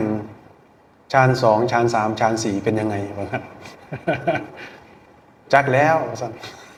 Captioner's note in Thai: เสียงหัวเราะ